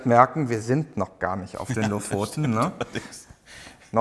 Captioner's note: laughing